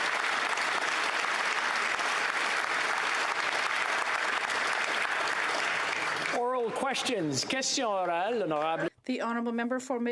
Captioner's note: applause